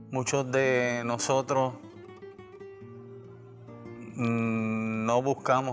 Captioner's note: speaking spanish